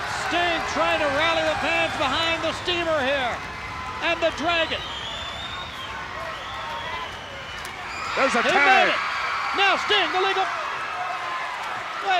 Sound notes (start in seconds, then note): 6.4 crowd cheers